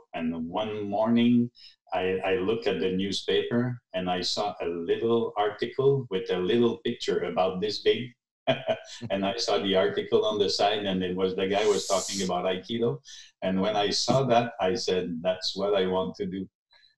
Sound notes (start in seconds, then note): 8.5 laughing